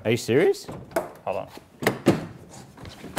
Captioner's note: door rattles